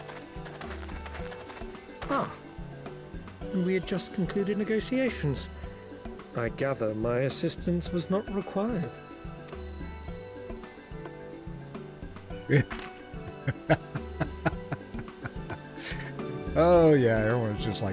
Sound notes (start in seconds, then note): 13.3 laughs